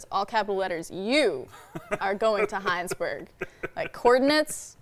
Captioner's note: laughing